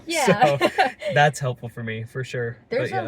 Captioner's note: laughs